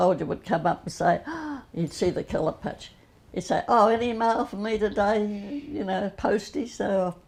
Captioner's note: gasp